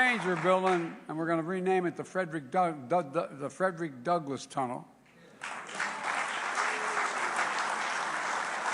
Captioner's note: applause